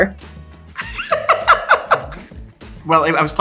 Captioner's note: Kieran laughing